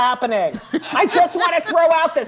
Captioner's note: cackling